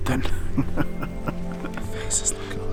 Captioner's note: laughing